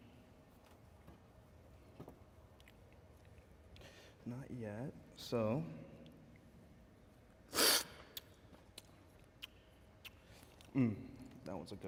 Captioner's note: slurping